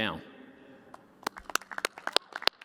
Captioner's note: applause